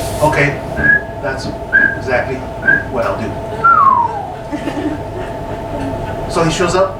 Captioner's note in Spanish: silbar; silbido